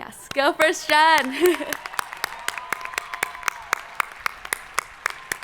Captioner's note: crowd applauding